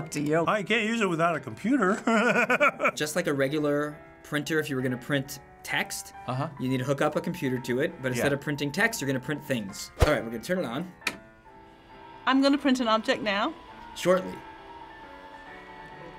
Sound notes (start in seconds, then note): 1.9 laughs; 11.6 machine whirs